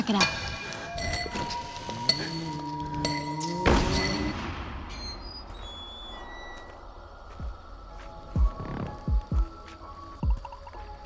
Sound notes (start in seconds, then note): 1.9 door creaks; 3.6 door slams